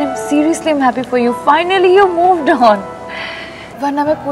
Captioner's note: Falguni inhales